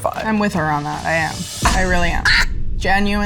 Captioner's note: laughs